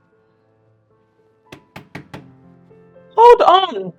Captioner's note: knock at the door